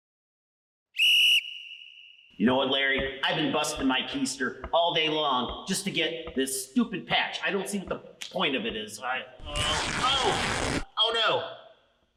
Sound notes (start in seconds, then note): 0.9 whistle blows